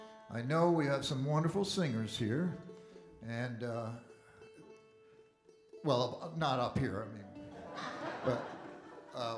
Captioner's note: audience Laughing